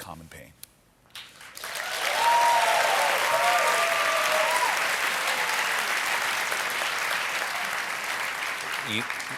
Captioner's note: cheers and applause